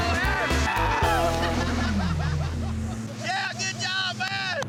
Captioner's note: laughter